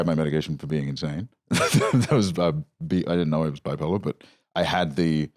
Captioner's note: laughs